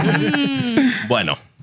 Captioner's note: laughter